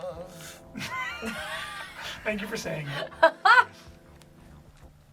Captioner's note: laughs